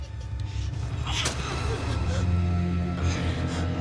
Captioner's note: Callista grunts and moans